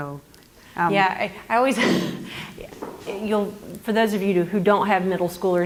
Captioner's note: laugh